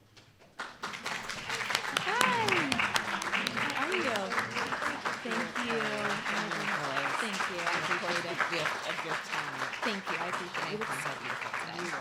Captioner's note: applause